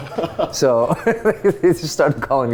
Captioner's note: laughing